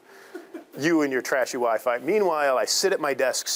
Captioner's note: students laughing